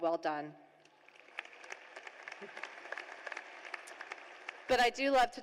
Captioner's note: applause